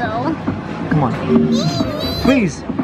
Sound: squealing

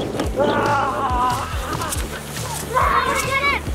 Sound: yells

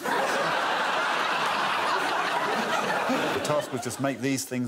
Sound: audience laughing

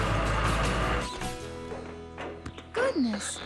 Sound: hammering

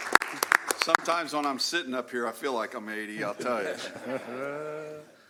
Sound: applause

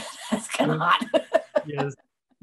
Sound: laughs

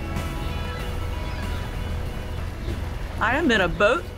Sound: sea gulls squawking

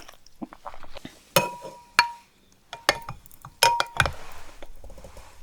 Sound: popping boba

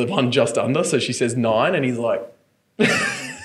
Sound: laughing

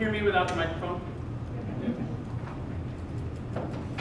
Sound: audience affirms

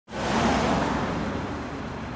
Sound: car passing

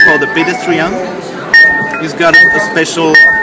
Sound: ring; bell tone ringing

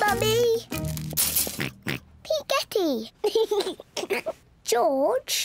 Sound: oinks; giggles

